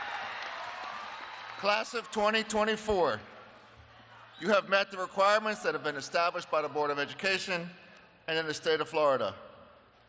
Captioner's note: cheers and applause